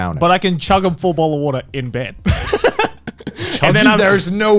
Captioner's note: laughs